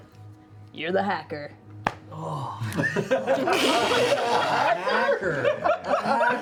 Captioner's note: laughter